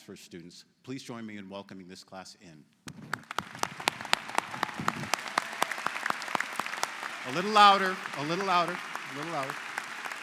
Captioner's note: �cheers and applause�